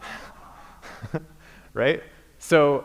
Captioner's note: laughter